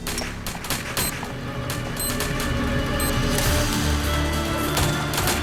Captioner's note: explosives beeping; guns firing; slow music